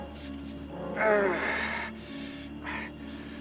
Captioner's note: groans in pain